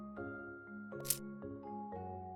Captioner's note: click sound; calm music